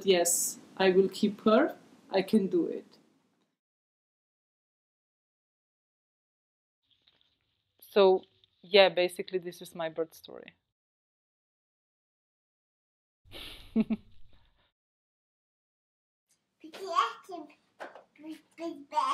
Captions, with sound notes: Yes, I will keep her I can do it So, yeah basically, this is my birth story (laughter) (baby babbling)